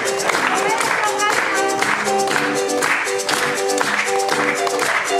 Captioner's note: speaking in foreign language